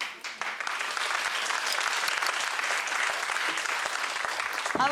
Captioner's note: audience clapping